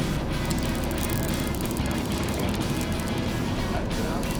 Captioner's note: fishing line whirring